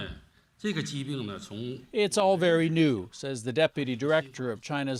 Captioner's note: speaking foreign language